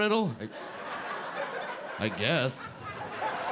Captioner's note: audience laughing